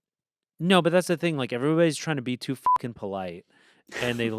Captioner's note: beep